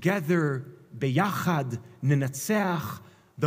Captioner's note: Hebrew